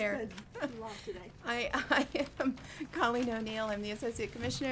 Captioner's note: laughs